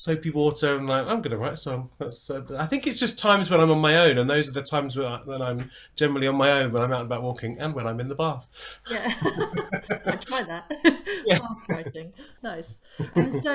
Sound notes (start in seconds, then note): 8.9 laughter